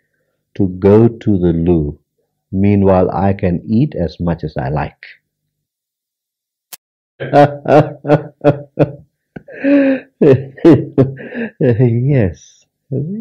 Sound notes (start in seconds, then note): 7.2 laughs